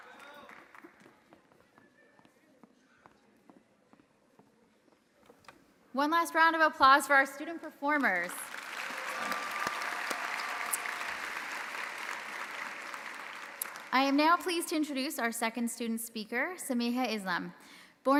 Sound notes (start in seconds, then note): 8.2 audience applauding; 8.5 audience cheering